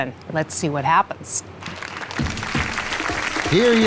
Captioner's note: applause